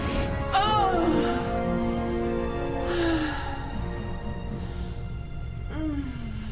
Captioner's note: rain and Thunder; moans, heavy breathing